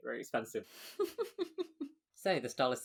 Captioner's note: laughs